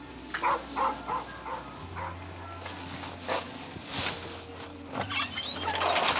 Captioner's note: crickets chirping; dog barking